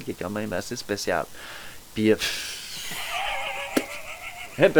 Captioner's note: laugh